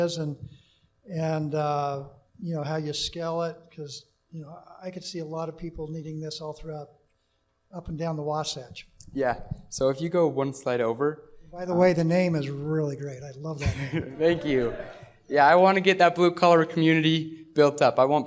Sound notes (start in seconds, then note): 13.6 laughter